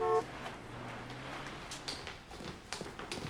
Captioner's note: car horn honking